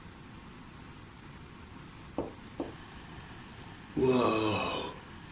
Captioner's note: tapping